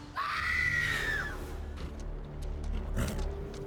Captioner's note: woman screams, boy gasps